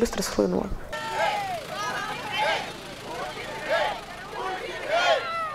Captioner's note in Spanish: Gritos y cantos